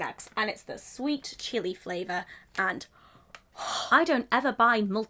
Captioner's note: gasps